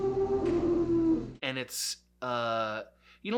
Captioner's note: elephant-like screaming